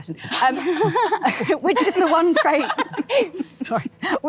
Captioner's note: all laughing